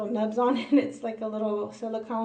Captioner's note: laughs